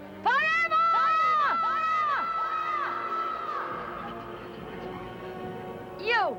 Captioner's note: voice echoes